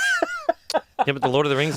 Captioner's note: laughs